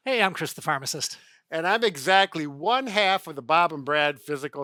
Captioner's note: none